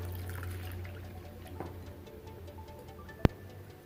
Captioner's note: pours water